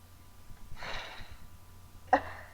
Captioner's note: big sigh